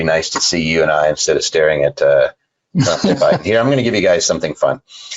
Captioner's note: laughing